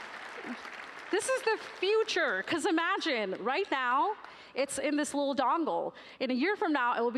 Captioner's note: applause